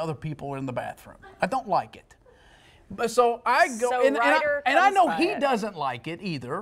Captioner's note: laughter